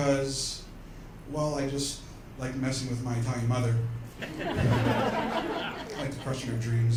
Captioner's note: laughter